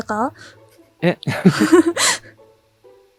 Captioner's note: chuckles